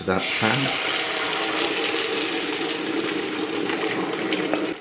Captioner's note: liquid bubblin an a sizzlin